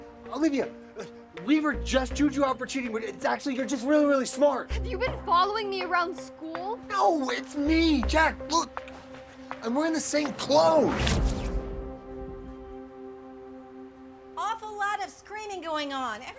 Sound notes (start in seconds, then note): 10.8 zapping